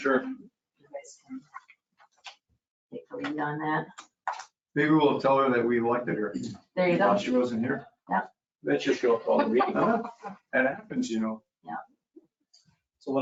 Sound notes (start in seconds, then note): 8.9 laughing